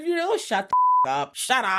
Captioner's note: beep